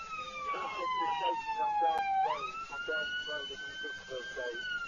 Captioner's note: police radio